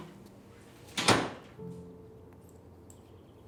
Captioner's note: door opens; door closes